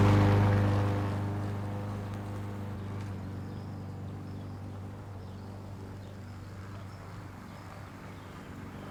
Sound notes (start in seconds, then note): 3.0 birds chirping; 3.0 engine rumbling